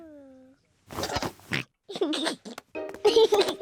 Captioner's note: oinks and giggles